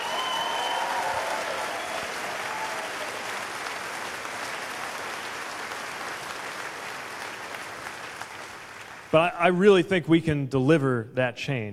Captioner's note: cheers/applause